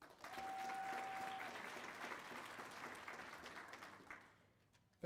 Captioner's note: applause